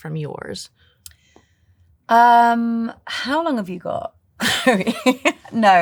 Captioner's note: laughs